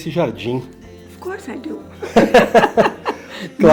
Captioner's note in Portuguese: risos